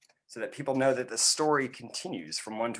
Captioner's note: none